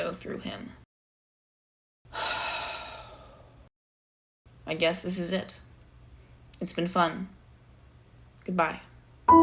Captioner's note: sigh